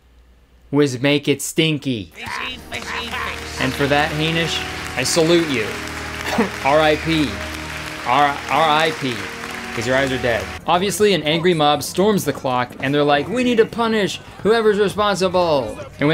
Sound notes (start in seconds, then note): 5.8 crowd applauding